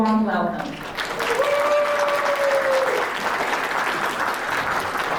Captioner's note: audience applauds and cheers